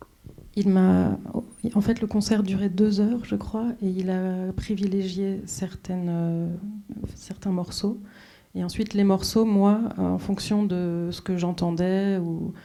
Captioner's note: speaking French